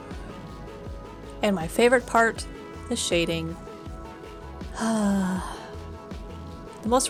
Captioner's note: relaxed sigh